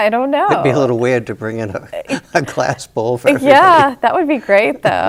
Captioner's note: chuckles